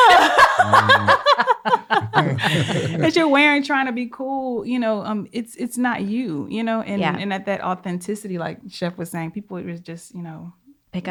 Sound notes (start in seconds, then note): 0.0 all laugh